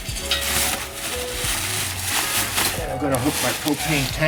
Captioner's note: plastic crinkles